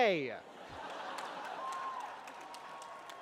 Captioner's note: cheering